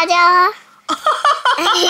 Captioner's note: Laughing